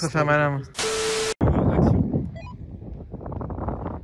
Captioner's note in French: bip